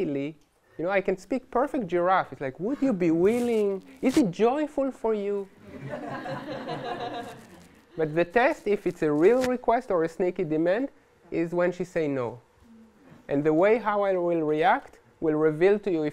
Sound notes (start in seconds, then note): 5.6 laughter